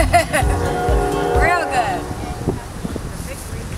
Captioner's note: laughing